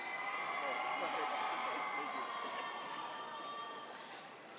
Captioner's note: audience cheers